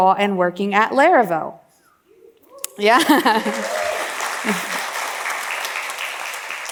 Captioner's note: laughs